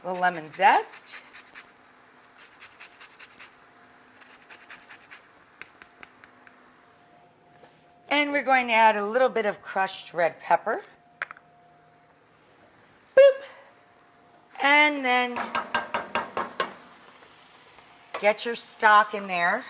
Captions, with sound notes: Little lemon zest. (grater scraping) And we're going to add a little bit of crushed red pepper. Boop. And then, get your stock in there.